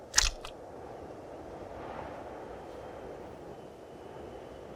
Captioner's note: wind humming